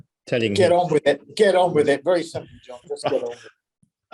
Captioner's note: laugh